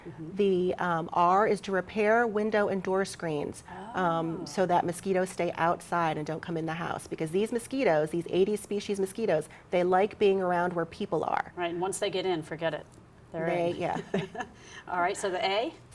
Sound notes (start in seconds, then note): 13.8 laughter